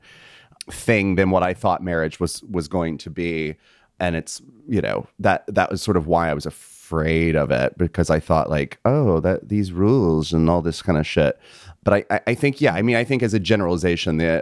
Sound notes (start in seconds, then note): none